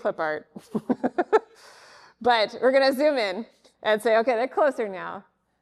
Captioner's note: laughs